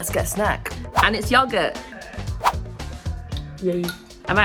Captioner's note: words whooshing